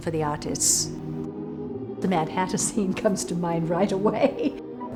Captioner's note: laughs